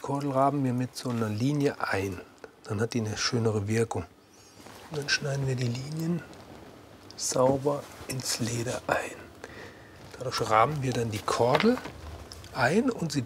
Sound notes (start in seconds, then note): none